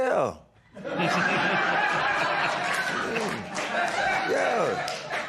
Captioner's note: laughter